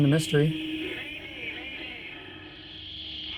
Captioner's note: man on radio